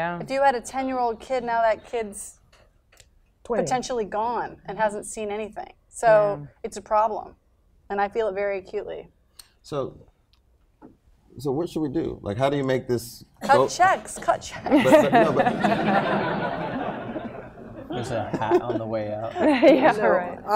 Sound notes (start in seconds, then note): 14.4 laughter